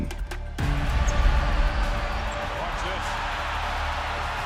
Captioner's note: crowds cheering